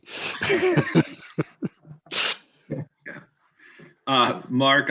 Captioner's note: all laughing